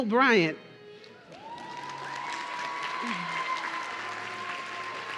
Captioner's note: audience cheering